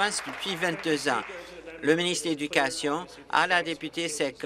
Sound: applause

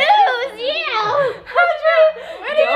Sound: everyone talking

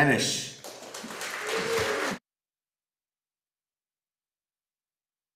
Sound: audience applauding

